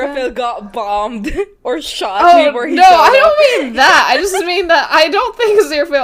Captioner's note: laughs; laughing